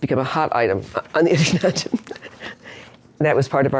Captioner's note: laughs